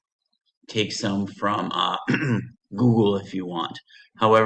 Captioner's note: clears throat